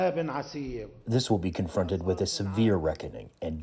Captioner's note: through translator